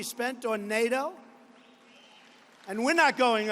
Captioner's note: applause